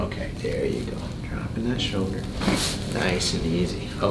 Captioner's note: back cracking